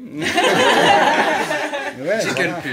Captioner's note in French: rires